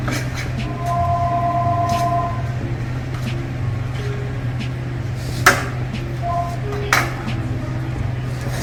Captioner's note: sounds of the kitchen; phone rings